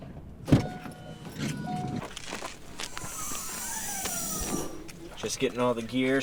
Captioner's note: door chimes; latch clicks